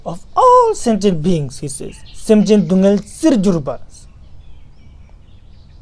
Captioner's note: tibetan